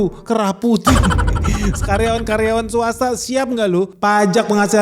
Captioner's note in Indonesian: tertawa